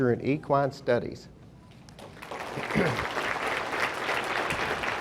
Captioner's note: audience applauding